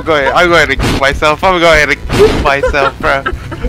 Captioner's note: Lightning